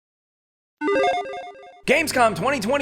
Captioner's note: logo beeps